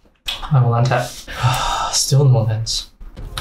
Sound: sighs

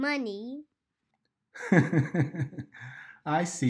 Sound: laughs

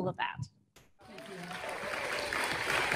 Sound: audience applauding; audience cheering

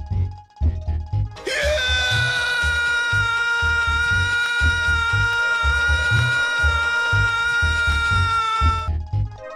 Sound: Luigi screaming

